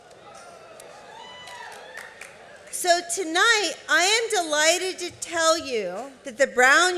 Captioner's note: cheers